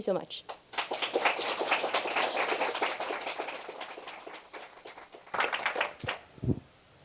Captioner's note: applause